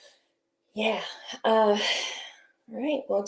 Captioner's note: sigh